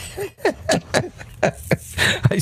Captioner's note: laughing